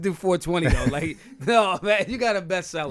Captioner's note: laughing